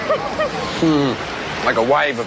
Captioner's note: laughs